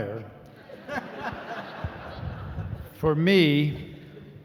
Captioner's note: laughing